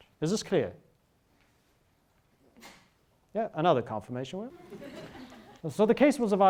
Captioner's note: students laugh